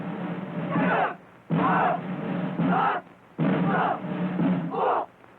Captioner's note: shouting